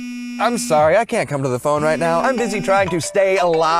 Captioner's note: phone ring